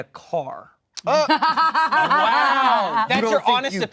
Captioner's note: laughter